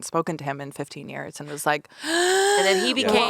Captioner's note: gasps